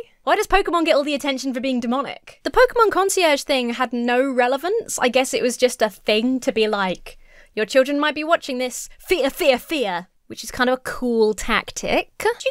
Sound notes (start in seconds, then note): none